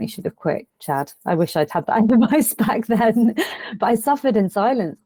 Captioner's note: chuckles